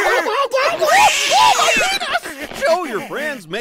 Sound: Donald screams

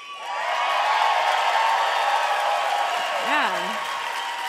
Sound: crowd cheering

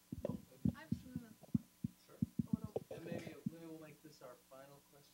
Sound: speaking off microphone

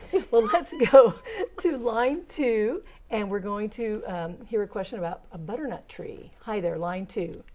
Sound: laughing

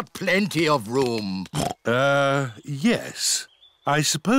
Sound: oinks

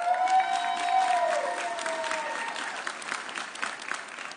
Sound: audience cheering

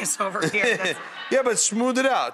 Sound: Buddy and audience laugh

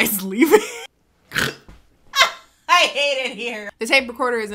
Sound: laughing

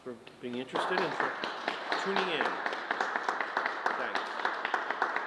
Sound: group clapping

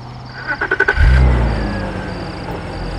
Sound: engine revving up

